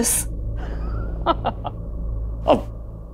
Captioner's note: Giggling